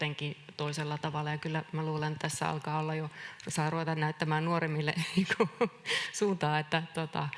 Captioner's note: naurahtaa